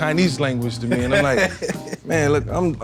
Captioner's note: laughing